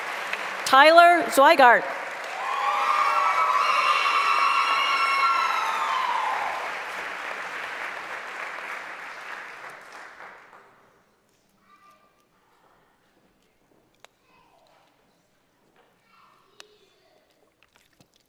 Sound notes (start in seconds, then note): 0.7 applause; 6.6 cheering